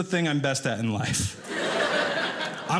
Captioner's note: audience laughing